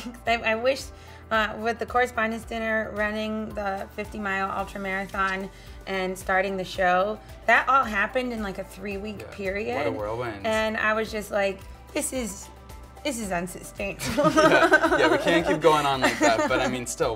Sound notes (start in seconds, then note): 14.0 Michelle and interviewer laugh